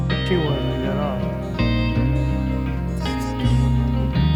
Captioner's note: mumbling